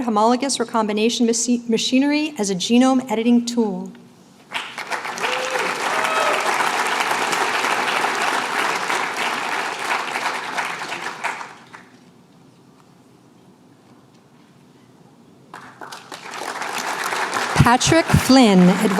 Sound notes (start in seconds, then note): 4.4 applause